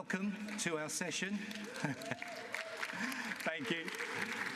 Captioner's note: applause